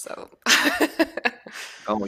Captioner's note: laughs